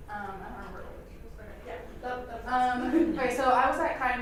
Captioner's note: asks question softly